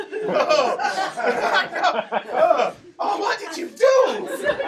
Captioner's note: audience laughing